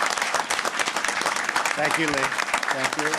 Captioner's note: applause